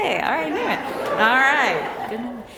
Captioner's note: laughter